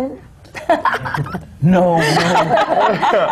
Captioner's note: laughter